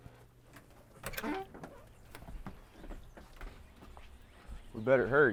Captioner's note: door creaks